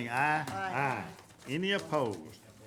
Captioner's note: group chanting